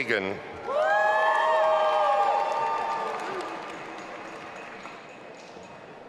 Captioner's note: audience applauding and cheering